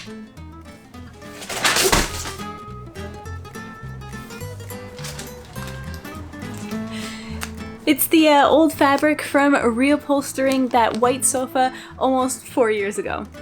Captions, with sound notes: *SMASH* Its the old fabric from reupholstering that white sofa almost four years ago!